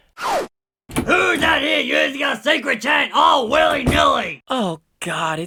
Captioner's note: door opens